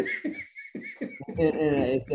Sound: Denis laughing

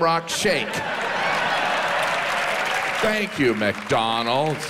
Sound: audience cheers

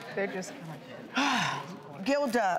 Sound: Vivica sighs

